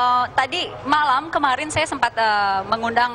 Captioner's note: non-english speech